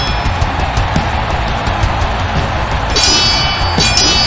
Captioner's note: crowd cheering; swords clanging